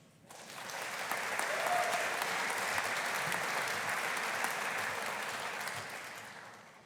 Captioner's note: audience applauding; audience cheering